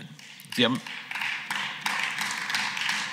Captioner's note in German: Beifall